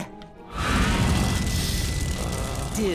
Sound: growls

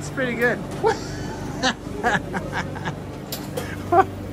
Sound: laughing

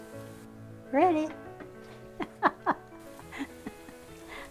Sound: laughs

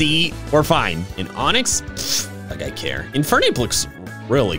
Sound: scoffs

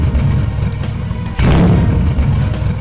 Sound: mustang revving

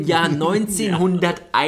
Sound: laughs

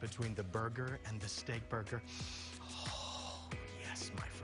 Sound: inhales

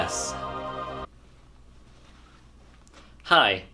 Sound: Static

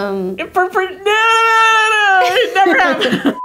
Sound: shouting

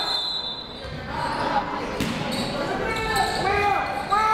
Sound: whistle blows

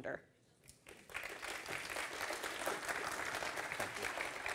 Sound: audience claps

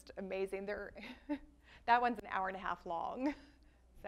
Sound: laughs

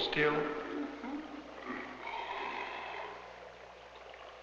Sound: liquid bubbling

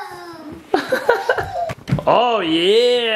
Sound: laughing

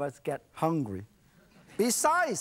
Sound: audience laughs

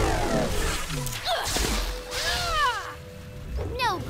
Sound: splash; grunts

